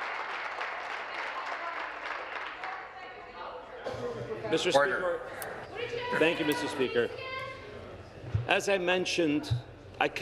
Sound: applause

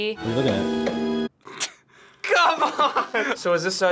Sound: snickers

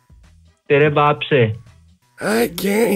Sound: swearing in Hindi

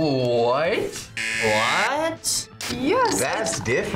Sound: buzzer rings

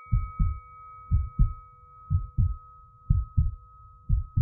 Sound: heart pounding

